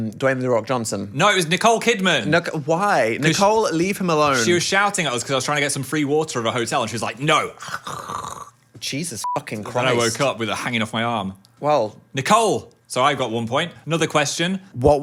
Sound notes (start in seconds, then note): 8.0 vocalizing gnawing; 9.2 beep